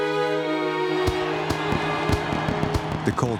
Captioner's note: crowd cheering